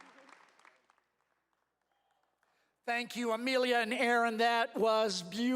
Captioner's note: cheers and applause